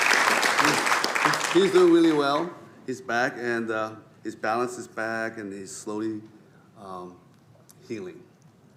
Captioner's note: applause